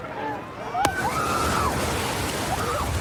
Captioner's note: excited screaming